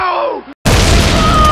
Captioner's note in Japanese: ボーン